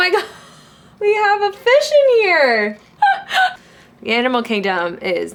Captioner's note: chuckles